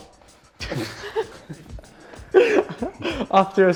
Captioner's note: laughter